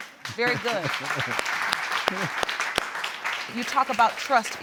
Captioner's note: audience applauding